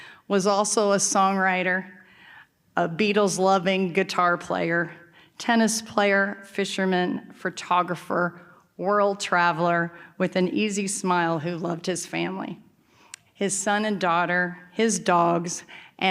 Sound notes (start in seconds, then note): none